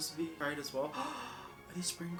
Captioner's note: gasp